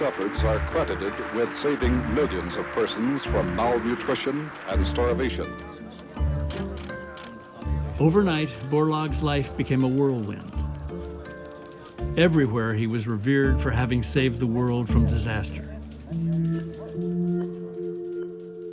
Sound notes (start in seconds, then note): 5.2 overlapping chatter, camera shutter clicks